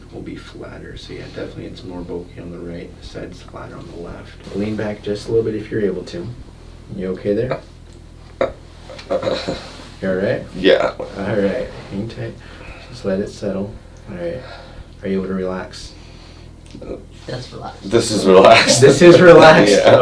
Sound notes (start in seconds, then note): 9.0 painful grunting; 18.4 laughing